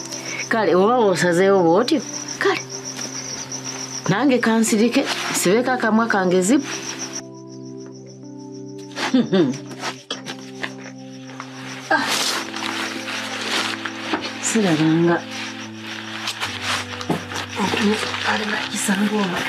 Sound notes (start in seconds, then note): 9.0 chuckles